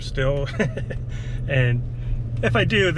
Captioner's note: chuckles